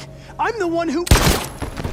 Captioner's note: gunshot